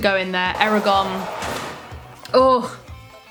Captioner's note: jail bars slam